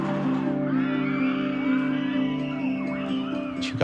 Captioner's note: kids screaming playfully